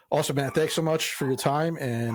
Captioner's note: dog barks